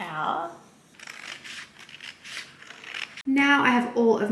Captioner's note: more cutting sounds